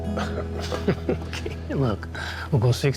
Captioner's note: both chuckling